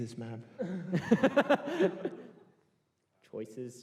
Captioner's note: laughter